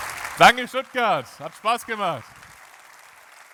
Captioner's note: applause